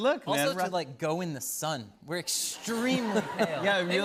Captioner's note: laughter